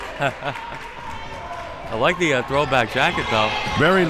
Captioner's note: laughs